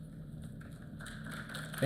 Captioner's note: applause